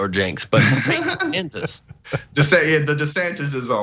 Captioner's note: laugh